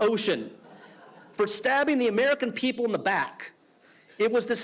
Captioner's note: audience laughing